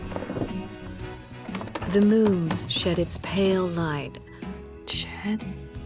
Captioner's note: typing